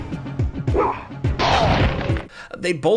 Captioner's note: body slams